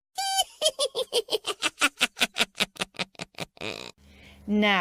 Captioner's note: witch's laughter